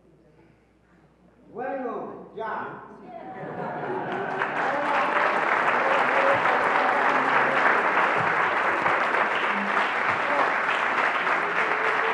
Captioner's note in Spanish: Aplausos